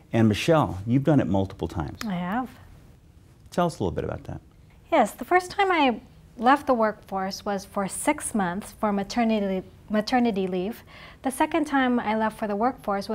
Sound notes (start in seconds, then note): none